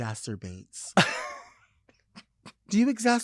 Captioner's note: laughing